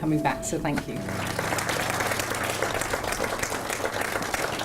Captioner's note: audience applauding